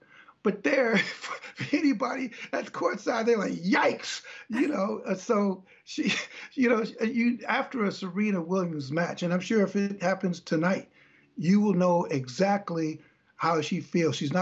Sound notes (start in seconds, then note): 4.2 laughter